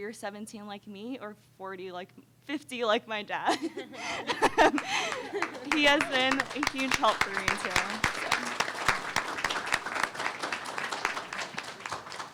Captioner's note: laughs